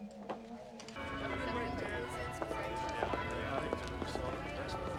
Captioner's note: bell tolling